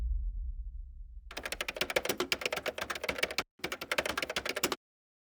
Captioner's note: typing